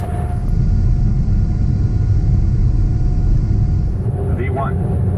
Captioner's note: plane engine noise